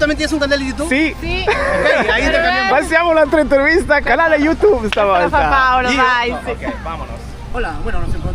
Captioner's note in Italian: risate